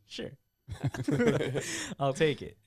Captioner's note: laughing